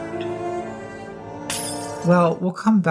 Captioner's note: glass shattering